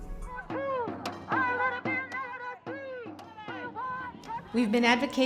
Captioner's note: chanting